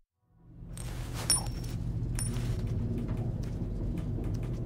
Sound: coin clinking

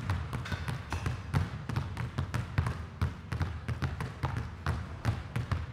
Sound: balls continue thudding

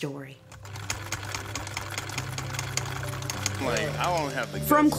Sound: film reel rolling; clipper running

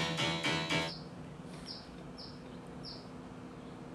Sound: song ends; birds chirping

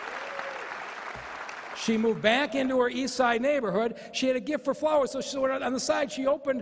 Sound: applause

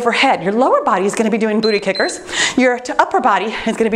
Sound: timer beeps

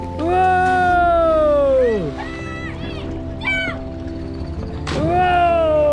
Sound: water splashes

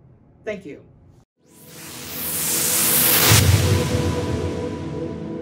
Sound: whooshing

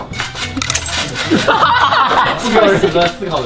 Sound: haha

